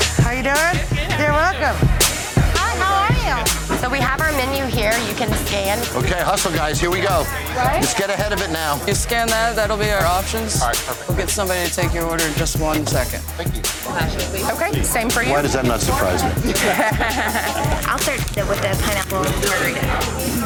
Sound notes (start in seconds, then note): 16.6 laughs